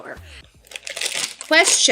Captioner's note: packaging rustles